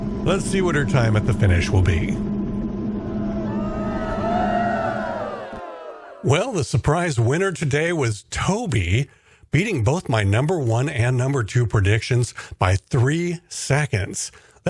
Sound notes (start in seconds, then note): 3.4 cheering